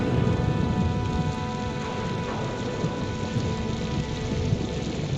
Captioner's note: rain pattering